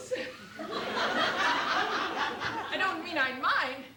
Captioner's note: laughter